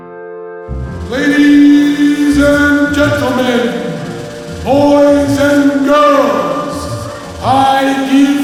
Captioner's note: on loud speakers